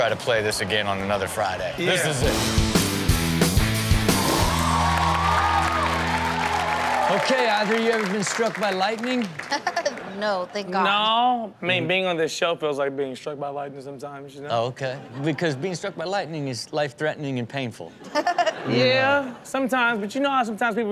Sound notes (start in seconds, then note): 2.1 heavy rock music; 4.0 audience cheers; 9.5 laughs; 18.0 audience laughs